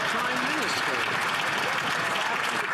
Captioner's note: some Applause